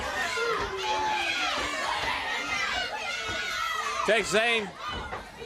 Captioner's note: crowd cheering